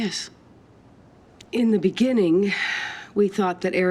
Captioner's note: sighs